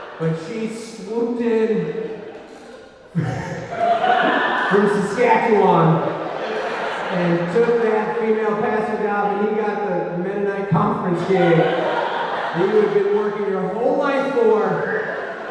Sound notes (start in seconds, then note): 11.9 audience laughing